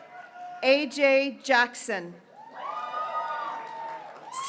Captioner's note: graduates cheering